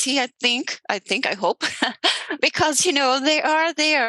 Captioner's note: laughs